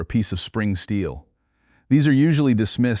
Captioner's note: serious tone